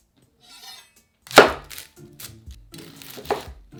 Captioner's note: knife cutting